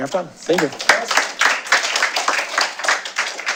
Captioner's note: applause